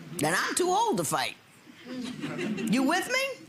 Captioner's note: audience laughing